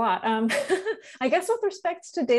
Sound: laughing

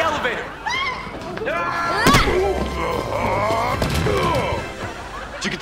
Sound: grunting

